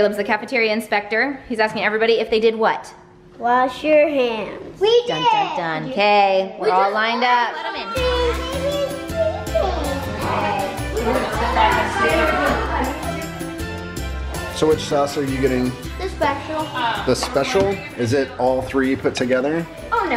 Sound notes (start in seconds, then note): 8.8 children talking; 11.5 cheerful music